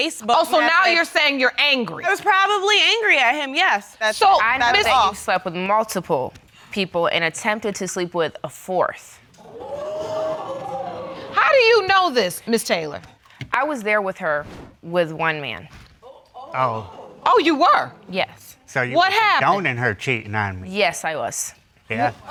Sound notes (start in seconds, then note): 9.5 audience gasps